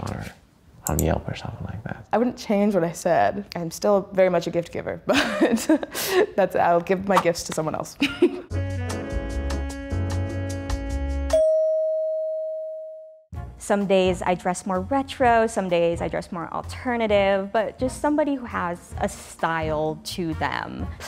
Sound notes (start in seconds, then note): 8.3 cheerful music; 11.3 bell dings